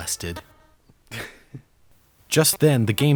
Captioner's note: chuckles